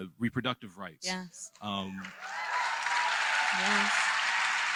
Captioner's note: applause